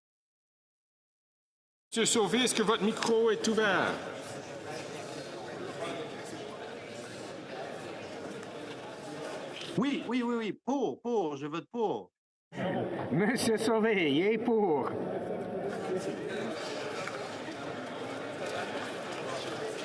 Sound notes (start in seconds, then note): 6.9 speaking French